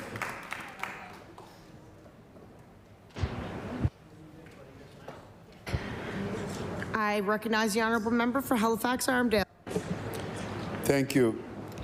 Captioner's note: applause